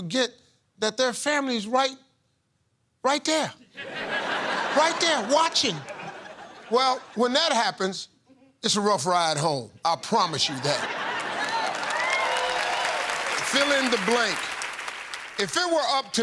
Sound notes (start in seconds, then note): 3.7 laughter; 10.8 cheers and applause